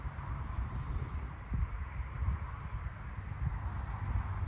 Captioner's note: traffic noise